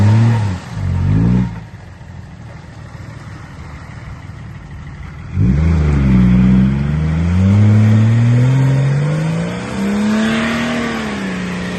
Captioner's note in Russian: Звук рёва мотора